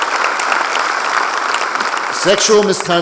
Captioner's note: applause